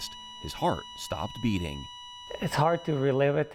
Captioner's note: monitor beeping